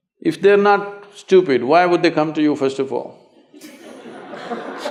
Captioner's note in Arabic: يضْحَك; ضحِك / تصفيق